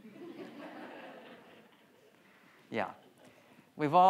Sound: audience laughs

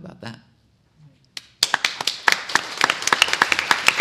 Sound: applause

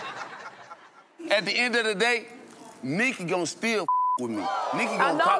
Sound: beep

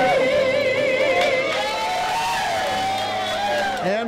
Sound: group cheering

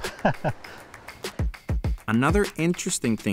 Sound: laughing

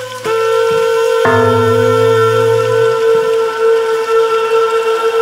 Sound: metallic echoing

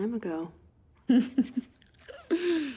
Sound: laughs

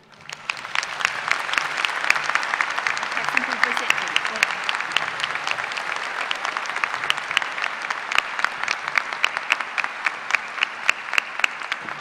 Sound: applause

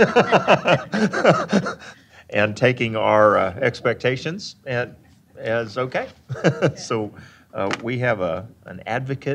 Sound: laughing

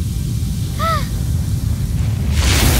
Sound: gasping

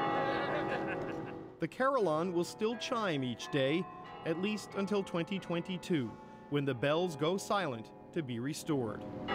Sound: bell Ringing

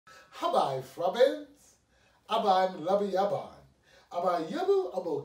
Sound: speaking in Ubbi Dubbi

